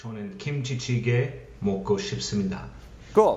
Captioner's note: non-english